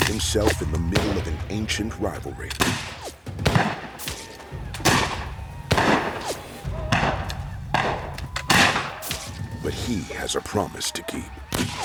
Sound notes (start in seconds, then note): 2.4 gunfire